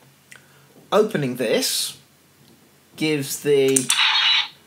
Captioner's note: click